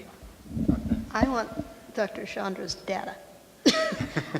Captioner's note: laughs